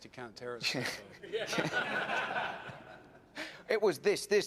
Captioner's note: and the audience laughs